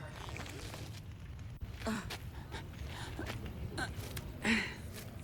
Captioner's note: groaning